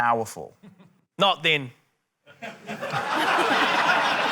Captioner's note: laughter